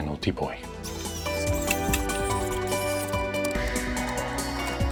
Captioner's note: screw hissing